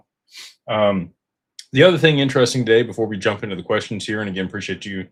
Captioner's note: snorts